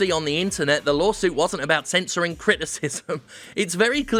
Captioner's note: chuckles